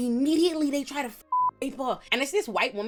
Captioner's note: beep